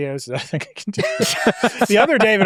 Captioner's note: hosts laughing